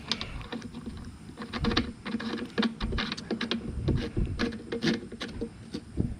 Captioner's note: metal rubbing plastic